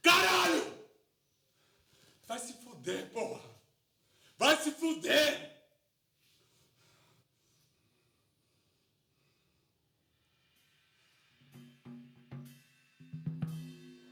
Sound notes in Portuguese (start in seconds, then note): 7.2 respiração agitada